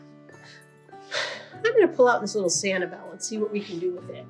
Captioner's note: exhales